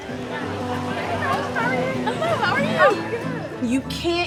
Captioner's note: women greeting each other